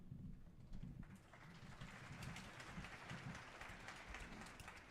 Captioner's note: audience applauding